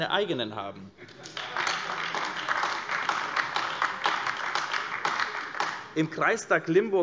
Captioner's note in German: Beifall AfD - Lachen SPD